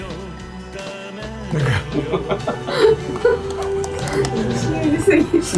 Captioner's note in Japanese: 笑い